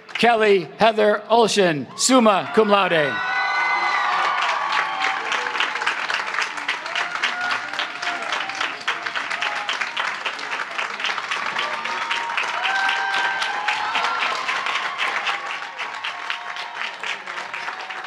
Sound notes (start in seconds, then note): 4.7 applause; 4.7 cheering